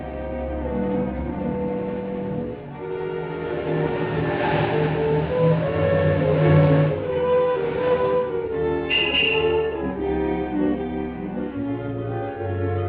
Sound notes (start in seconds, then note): 8.1 horn honking